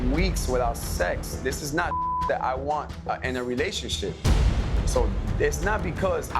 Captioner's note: beep